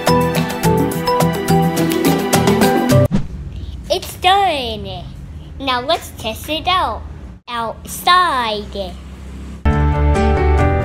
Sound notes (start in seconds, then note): 3.0 whoosh; 9.7 romantic music